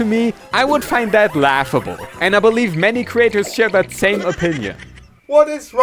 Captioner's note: laughter